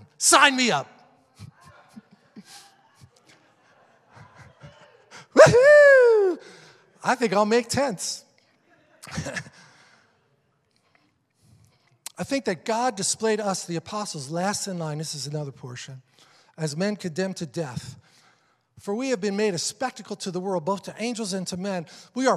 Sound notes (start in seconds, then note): 5.3 cheering